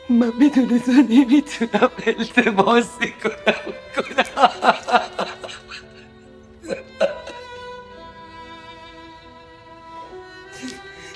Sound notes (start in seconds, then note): 4.1 crying